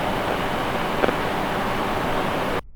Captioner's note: brief crackle